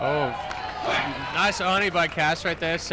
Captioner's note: crowd cheers